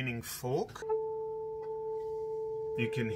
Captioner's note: tuning fork hums